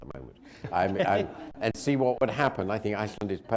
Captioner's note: laughter